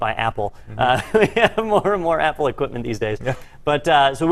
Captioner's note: laugh